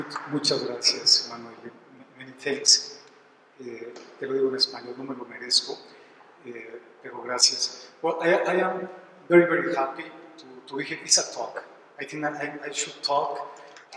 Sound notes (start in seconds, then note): 0.0 applause; 3.9 speaking spanish